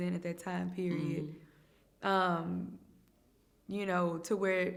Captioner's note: hums in agreement